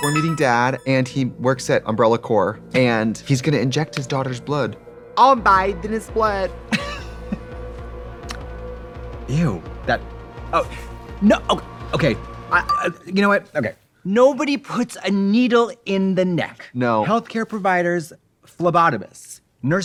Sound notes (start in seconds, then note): 6.7 Katya laughs